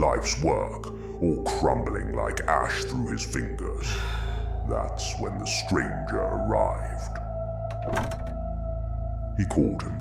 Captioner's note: door closing